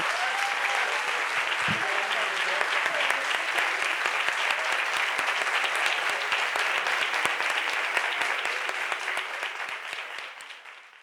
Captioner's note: applause